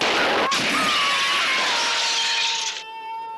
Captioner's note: screaming